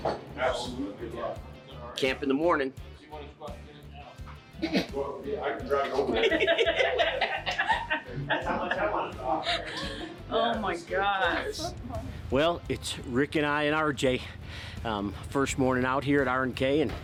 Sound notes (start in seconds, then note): 5.8 laughing